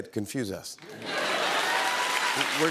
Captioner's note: applause